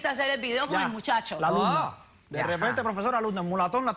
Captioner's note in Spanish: exclamaciones